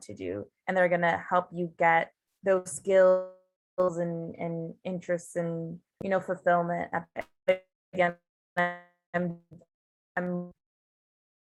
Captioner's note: Zoom cuts out